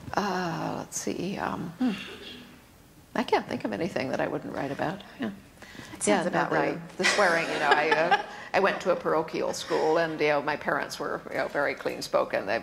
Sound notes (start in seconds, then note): 7.0 laughter